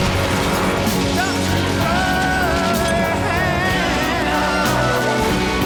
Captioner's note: crash!; screaming